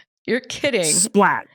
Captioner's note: laughs